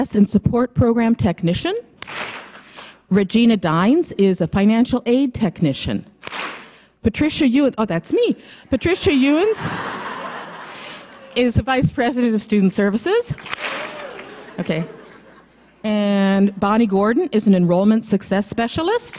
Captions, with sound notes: and support program technician. Regina Dynes is a financial aid technician. Patricia Ewins, oh that's me, Patricia Ewins (audience laughing) is a vice president of student services. Okay, and Bonnie Gordon is an enrollment success specialist.